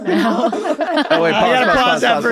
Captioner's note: all laughing